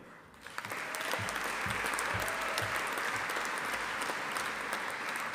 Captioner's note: audience applauding